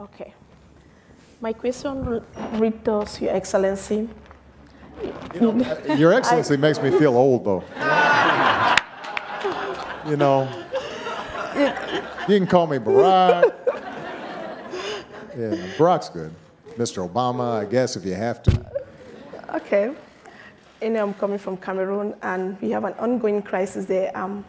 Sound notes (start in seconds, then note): 8.1 audience laughing